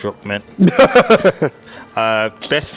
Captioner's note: laughing